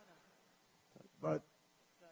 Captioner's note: laughter